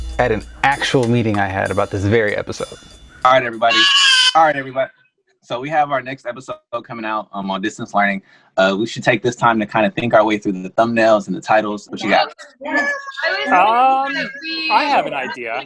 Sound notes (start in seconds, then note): 3.6 baby cries; 12.0 group chattering